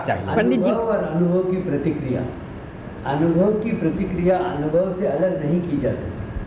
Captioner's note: in Hindi